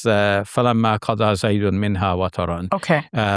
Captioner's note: speaking in a foreign language